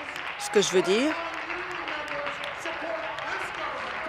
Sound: applause

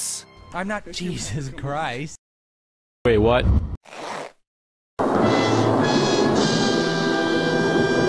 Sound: zipper sound

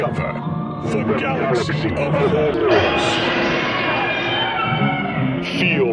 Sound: screams

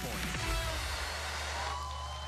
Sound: cheers and applause

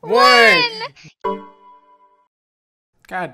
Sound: Chord, Windows 98 Sound

